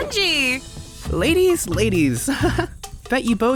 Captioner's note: chuckles